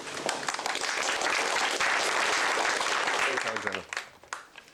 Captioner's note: applause